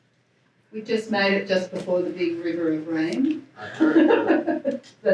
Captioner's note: laughs